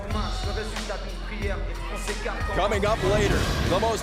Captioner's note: crowd chatter